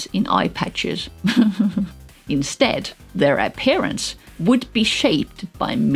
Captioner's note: laugh